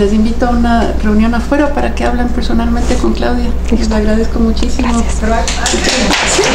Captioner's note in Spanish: aplausos